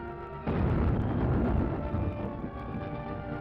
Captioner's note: boom!